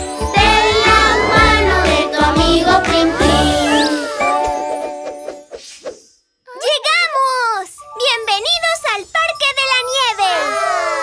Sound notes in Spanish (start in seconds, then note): none